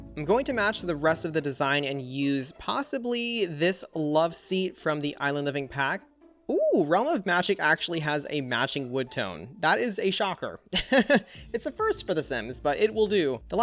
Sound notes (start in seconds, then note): 10.8 laughs